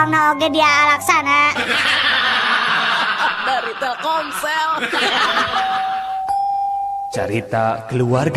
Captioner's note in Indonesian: tertawa